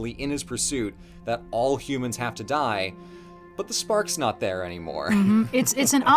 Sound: laughs

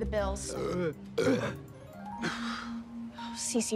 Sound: burping

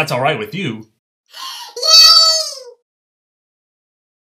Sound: gasps

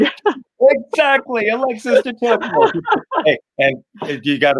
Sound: laughing

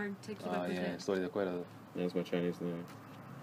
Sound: spanish

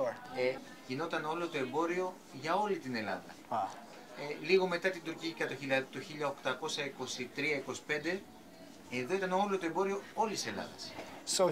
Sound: speaking Greek

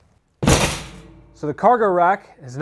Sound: metal clangs

